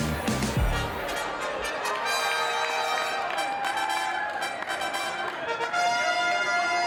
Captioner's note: crowd cheers; trumpets play